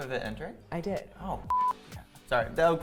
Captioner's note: beep